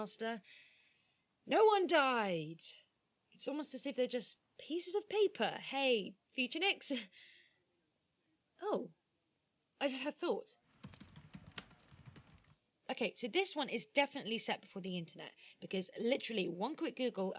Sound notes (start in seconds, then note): 10.7 typing sounds